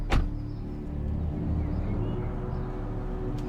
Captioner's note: car door slams